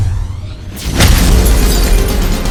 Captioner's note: glass shatters; high intensity music